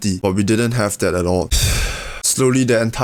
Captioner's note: sigh